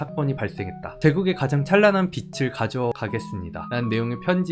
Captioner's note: voiceover